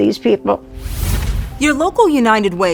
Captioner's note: air whooshes